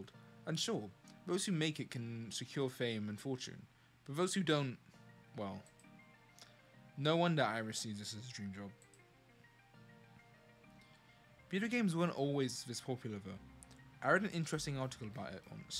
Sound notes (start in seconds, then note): none